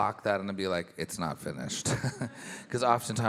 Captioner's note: chuckles